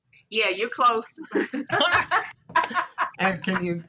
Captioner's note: laughter